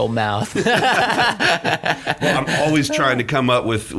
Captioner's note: laughing